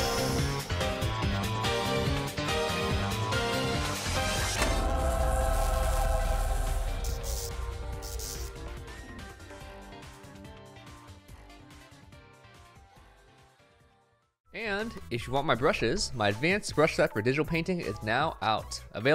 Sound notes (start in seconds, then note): 0.0 electricity buzzing; 0.3 upbeat music; 4.6 electricity buzzing